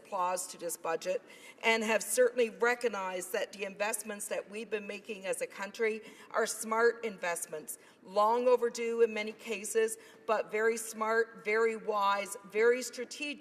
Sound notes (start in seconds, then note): none